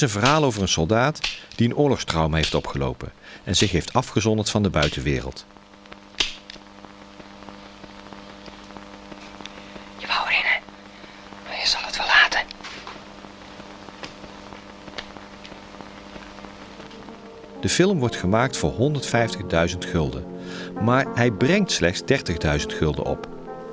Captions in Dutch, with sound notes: Het is een verhaal over een soldaat die een oorlogstrauma heeft opgelopen en zich heeft afgezonderd van de buitenwereld. [Fluistert] "Je wou er in hè? Maar je zal het wel laten." De film wordt gemaakt voor 150.000 gulden. Maar hij brengt slechts 30.000 gulden op.